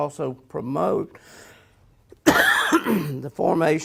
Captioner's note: coughs